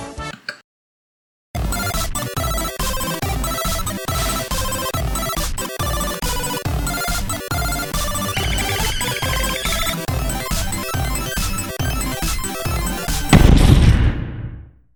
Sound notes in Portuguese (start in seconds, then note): 0.4 Click; 8.3 Borbulho de raiva